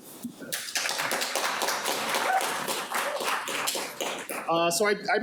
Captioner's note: audience applauding